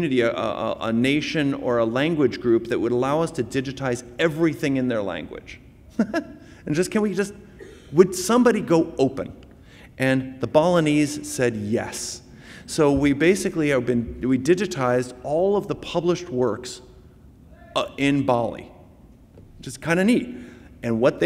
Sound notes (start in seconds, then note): 5.9 laughs